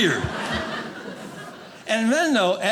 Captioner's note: audience laughing